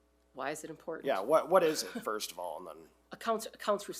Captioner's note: chuckles